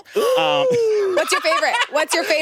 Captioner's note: laughs